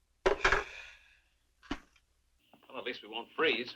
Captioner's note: hammer thudding; Steve sighs